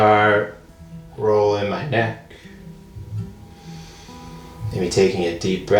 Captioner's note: deep breath